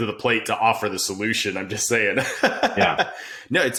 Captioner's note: laughing